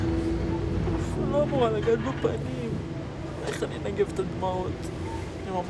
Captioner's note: speaking in foreign language